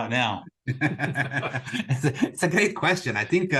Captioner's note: laughs